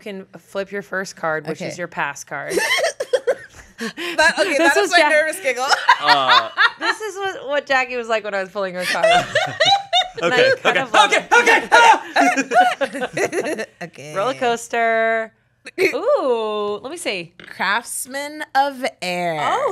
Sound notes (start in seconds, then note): 2.5 giggles; 5.4 laughs; 8.8 laughs; 12.2 everyone laughs